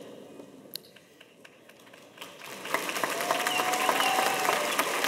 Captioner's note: audience applauding